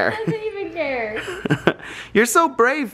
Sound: laughs

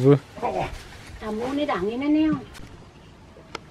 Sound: speaking Indonesian

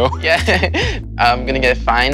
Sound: laughing

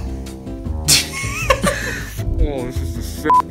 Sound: laughs

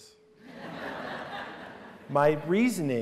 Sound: laughter

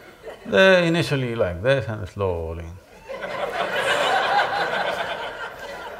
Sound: laughter

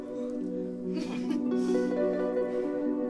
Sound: Claire chuckles

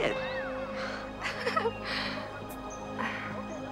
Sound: giggles

